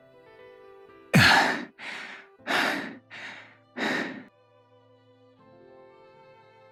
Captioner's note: panting